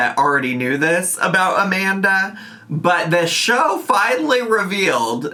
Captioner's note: none